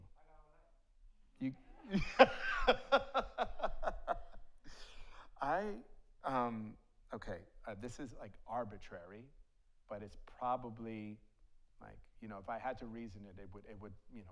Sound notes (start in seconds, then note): 1.8 laughs; 2.0 audience laughs